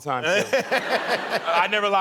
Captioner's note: laughing